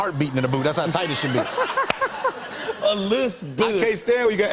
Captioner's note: laughter